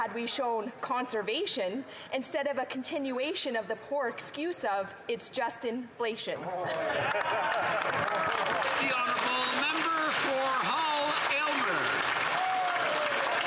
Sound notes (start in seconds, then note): 10.5 applause